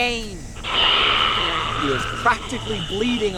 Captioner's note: zombie garbles